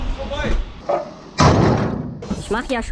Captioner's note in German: kraaach